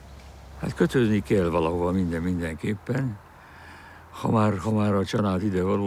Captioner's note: speaking in foreign language